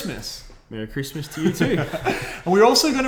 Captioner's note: laughs